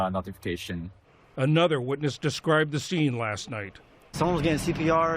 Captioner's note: voice-over